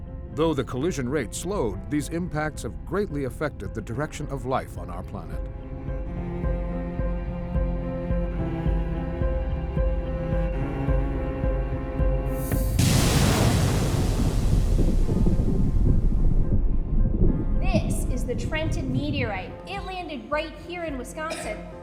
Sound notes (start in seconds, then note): 12.4 meteorite crash